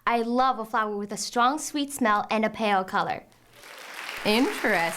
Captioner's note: applause